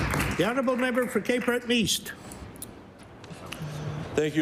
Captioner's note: applause